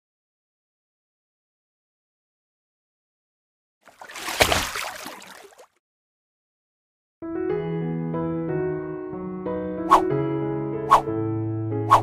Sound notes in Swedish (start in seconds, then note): 3.8 Plask!; 7.3 Stämningsmusik; 10.9 Swishande ljud